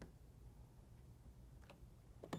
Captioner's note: beep